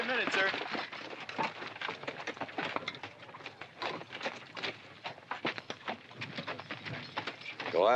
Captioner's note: horses trotting